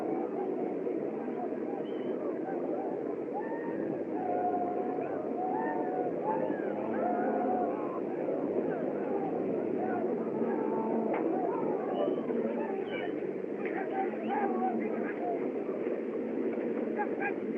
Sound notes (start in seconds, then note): 12.3 shouting Continues